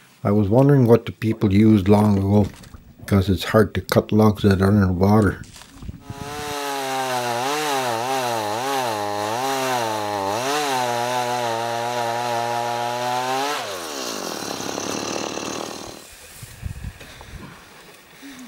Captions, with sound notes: I was wondering what the people used long ago, because it is hard to cut logs that are in water. [Powersaw on]